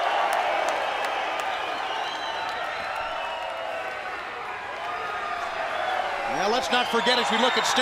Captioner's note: crowd cheering